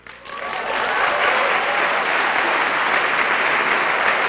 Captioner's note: applause